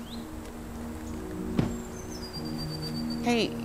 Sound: foot stomping can; car door banging

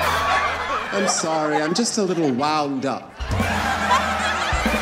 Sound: audience laughing

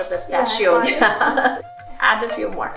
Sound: both laugh

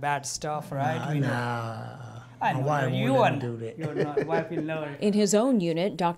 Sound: laughter

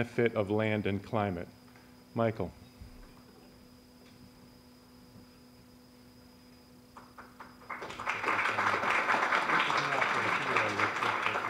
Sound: applause

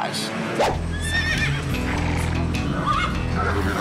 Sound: horse neighs

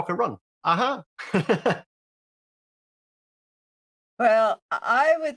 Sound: he laughs

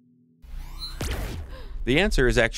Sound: researcher gasps

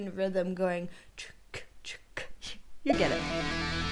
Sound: making chcka chcka sound; rock music playing

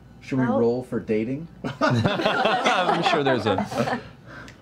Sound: laughter

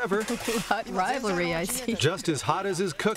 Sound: chuckling

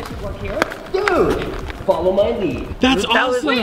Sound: voices echoing again

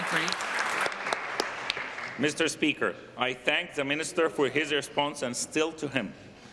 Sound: applause

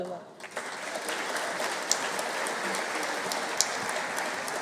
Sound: audience cheering

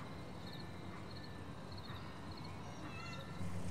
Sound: ice cream truck music; children playing in the distance

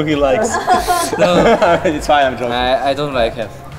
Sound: laughing

